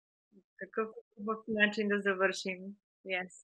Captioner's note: foreign phrase; foreign Language Spoken